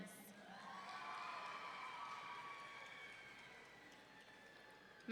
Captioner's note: audience cheering